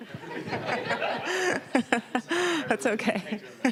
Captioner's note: all laughing